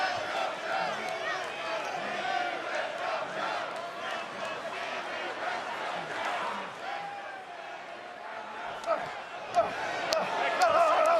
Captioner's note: fans chanting